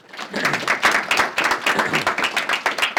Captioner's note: applause